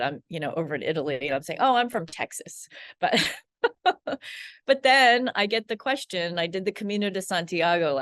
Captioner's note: laughs